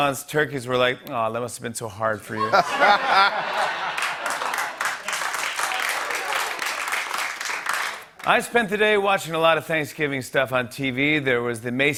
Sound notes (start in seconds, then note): 2.4 laughter and applause